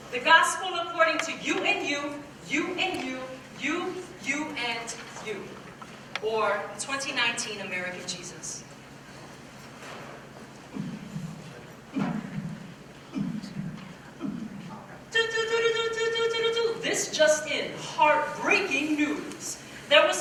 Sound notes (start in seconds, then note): 10.6 mimics heartbeat; 15.4 mimics siren